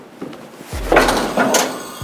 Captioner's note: pow